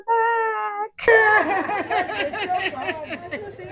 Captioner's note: sounds of joy